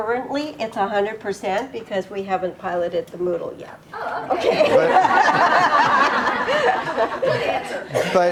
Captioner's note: laughing